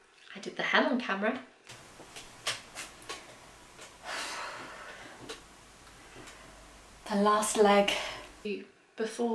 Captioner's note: sigh